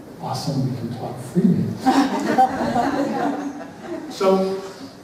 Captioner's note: laughter